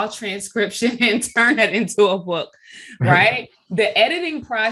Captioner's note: chuckling